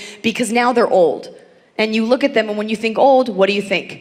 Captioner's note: none